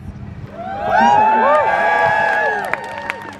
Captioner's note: crowd Cheers